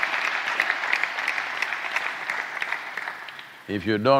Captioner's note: applause